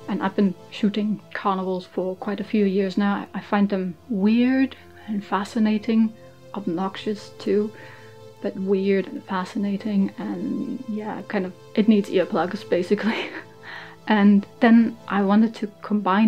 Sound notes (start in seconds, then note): 13.1 laughs